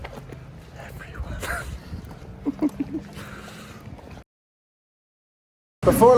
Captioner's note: whispering; laughs